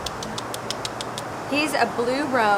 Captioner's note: mouth clicking